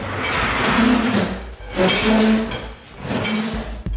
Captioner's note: loud scrapping